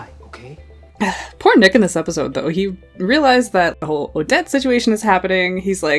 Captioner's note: sighs